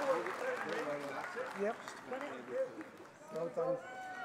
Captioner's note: applause